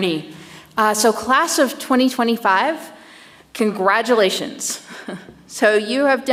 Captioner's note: chuckles